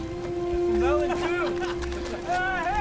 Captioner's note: laughs